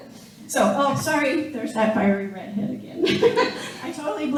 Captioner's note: laughing